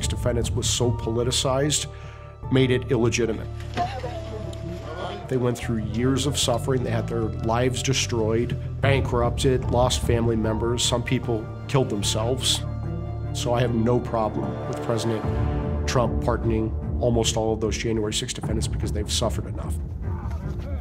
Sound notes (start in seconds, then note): 3.8 talking in background